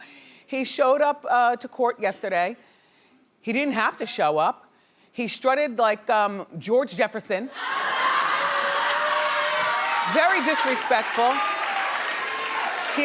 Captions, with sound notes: He showed up to court yesterday. He didn't have to show up. He strutted like George Jefferson. (audience laughing) Very disrespectful.